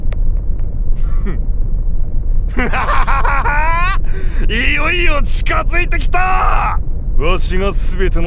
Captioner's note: laugh